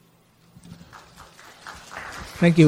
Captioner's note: applause